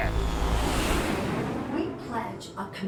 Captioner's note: aircraft whooshing